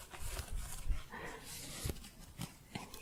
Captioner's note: shuffling